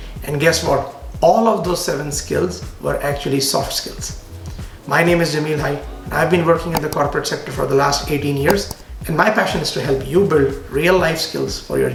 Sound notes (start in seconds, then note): 6.7 arrow clicks